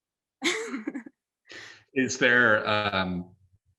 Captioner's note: laughs